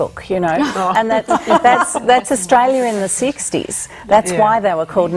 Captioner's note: laughter